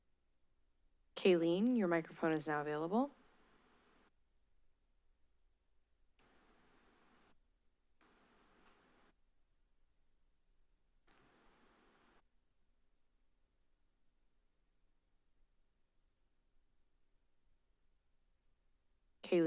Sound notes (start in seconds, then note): 3.2 silence